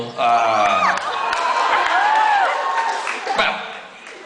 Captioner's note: crowd cheers and applauds